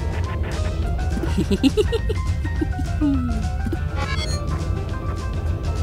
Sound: chuckles from Sentry moving immersion from FPV mode

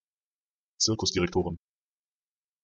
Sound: fast Pronunciation

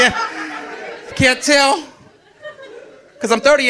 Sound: audience laughing

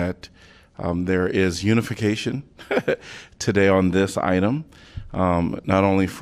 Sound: laughter

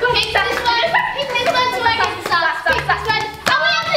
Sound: children cheering

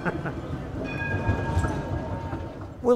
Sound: laughs; bells ding

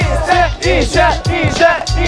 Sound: full of cheers

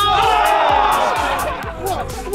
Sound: cheering

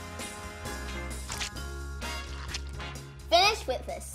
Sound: squishing

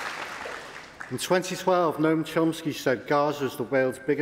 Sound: applause

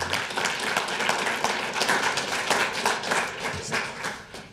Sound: audience clapping

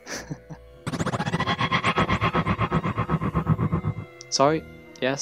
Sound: Tardis makes a noise of impatience

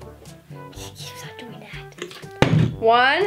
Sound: whispering; bottle landing

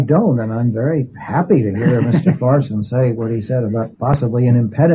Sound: laughs

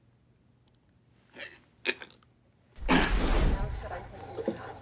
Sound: man grunting

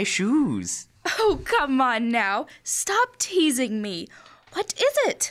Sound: laughs

